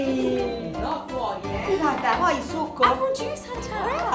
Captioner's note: speaking Italian